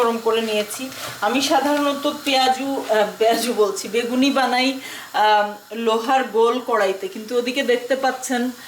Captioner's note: deep frying pan